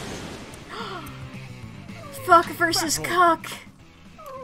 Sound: gasps

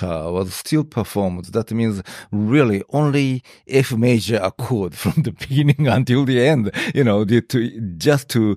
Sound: laughs

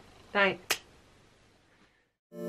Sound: light switch

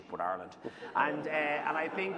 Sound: laughter

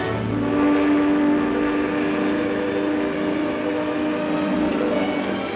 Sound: boat whistle blowing

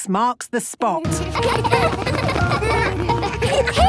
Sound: laughter

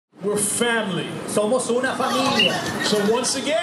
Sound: speaking spanish

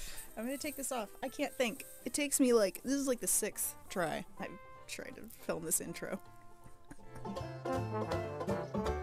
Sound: anguished sobs

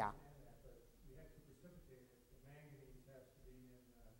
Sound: audience chatting

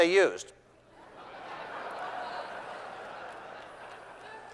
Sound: laughter

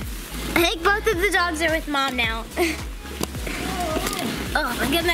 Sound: groans

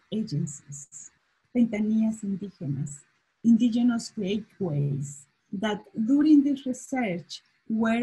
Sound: spanish

